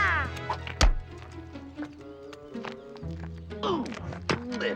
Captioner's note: Huck yelling; lure thuds; groans